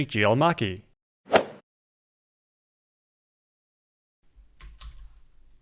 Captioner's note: golf swing sound effect